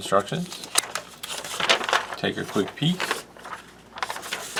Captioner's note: rustling paper